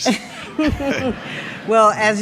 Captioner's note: person laughing